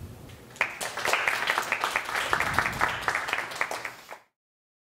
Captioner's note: audience applauds